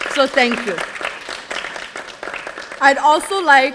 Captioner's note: audience applauding